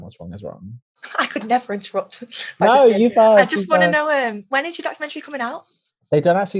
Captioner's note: laughs